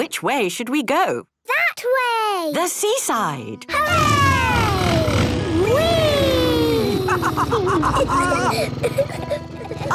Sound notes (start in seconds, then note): 5.6 laughs